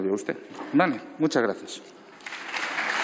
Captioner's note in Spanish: Aplausos